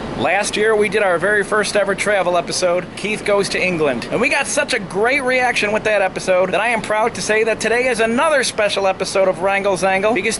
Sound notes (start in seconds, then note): none